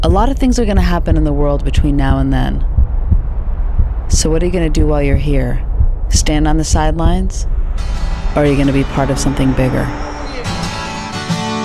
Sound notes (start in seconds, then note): 0.9 heart beating